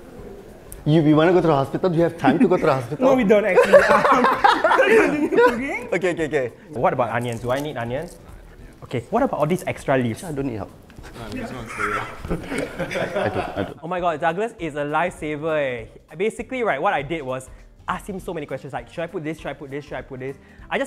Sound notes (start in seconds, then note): 11.1 laughs